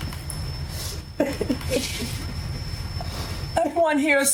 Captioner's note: laughing